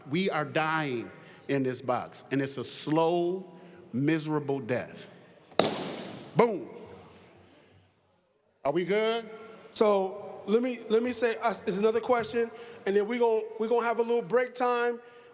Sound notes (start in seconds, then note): none